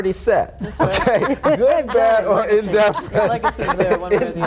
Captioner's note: mumbling and laughing